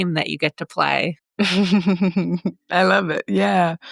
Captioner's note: laughs